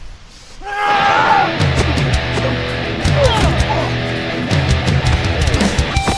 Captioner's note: Continental yells; rock music